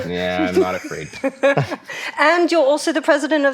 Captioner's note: laughing